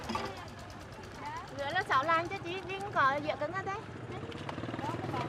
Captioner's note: speaking Vietnamese